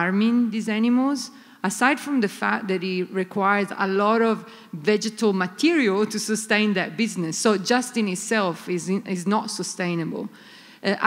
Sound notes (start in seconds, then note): none